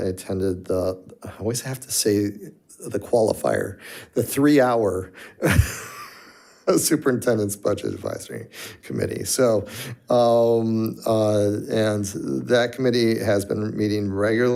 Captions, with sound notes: I attended I always have to say the qualifier, the three-hour (laughs) Superintendent's Budget Advisory Committee. So, and that committee has been meeting regularly